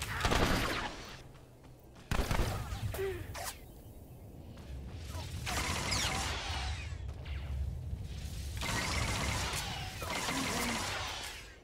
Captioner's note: gunshots